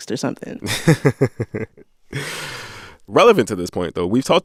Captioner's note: laughter